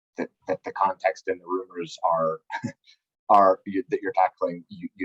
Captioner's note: giggles